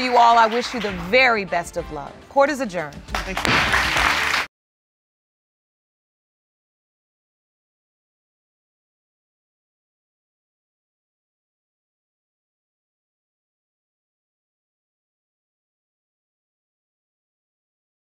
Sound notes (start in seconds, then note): 3.0 applause; 3.4 bangs gavel